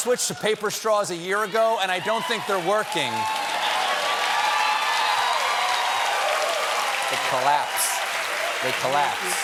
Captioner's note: cheers and applause